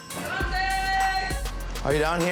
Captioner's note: scream